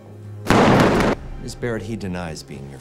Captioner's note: gunshot blasts